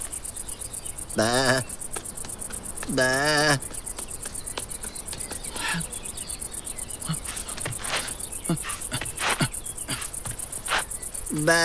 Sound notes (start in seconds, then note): 1.1 footsteps tapping; 1.2 man imitating sheep crying; 8.9 man grunting pathetically